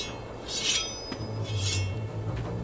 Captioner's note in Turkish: Kılıç çekme sesleri